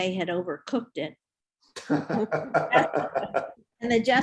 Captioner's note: group laughs